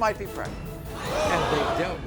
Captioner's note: audience groans